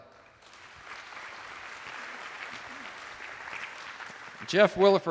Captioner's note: attendees applauding